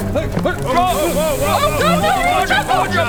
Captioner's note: tsssssssssssssss